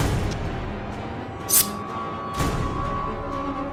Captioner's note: knife wipe